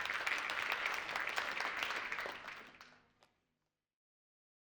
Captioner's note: audience applauding